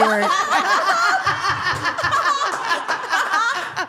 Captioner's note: all laughing